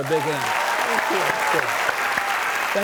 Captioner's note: audience clapping